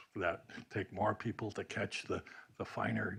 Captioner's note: none